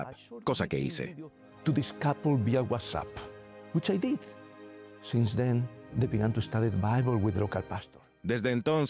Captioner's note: Hablando idioma extranjero